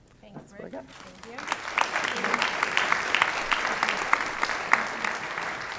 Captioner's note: audience applause